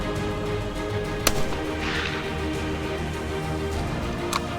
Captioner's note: gunshot